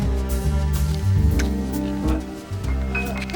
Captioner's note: sirens approaching